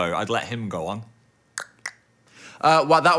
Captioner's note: tongue clicking